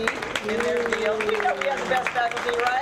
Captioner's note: audience clapping